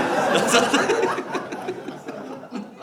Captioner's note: audience laughs